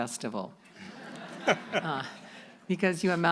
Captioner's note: audience laughing